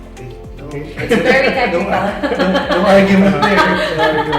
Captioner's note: laugh